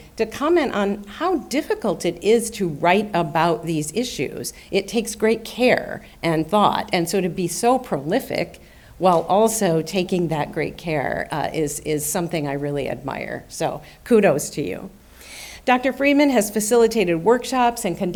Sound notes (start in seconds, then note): none